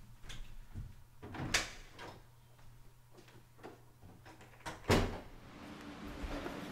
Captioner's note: door opening and closing